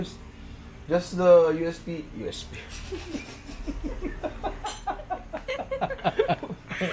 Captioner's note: laughter